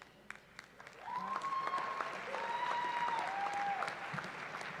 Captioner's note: cheering